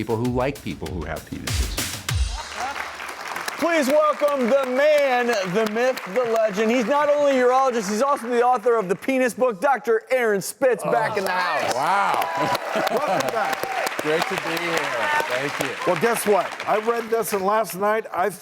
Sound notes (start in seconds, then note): 2.5 crowd clapping; 10.9 crowd cheering